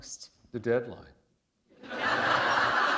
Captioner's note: laughter